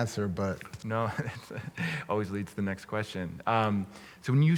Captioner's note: laughs